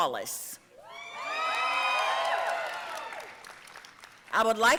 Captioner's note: audience cheering and applauding